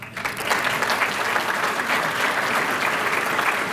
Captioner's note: applause